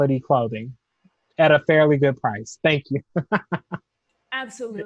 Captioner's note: laughs